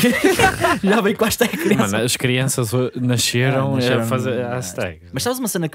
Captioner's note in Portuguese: risos